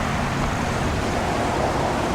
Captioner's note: bird and Car Noises